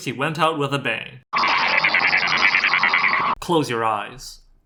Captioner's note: static